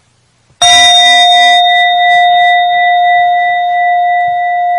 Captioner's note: bell chiming